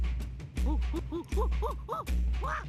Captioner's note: gibbering